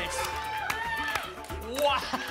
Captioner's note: applause and cheering